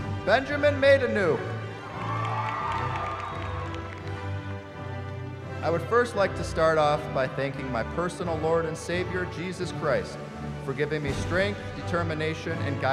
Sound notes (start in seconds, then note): 1.7 cheering